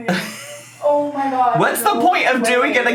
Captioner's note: laughs